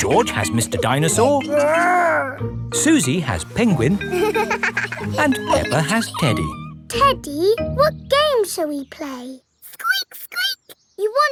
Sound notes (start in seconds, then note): 3.9 giggles